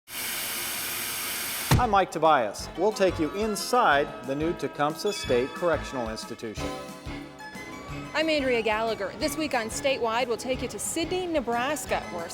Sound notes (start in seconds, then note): 0.1 electricity crackling; 0.1 hand thudding